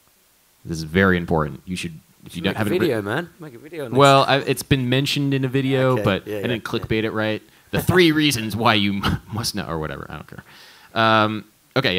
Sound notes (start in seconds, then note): 9.1 laughs